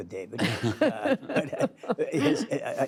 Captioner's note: laughter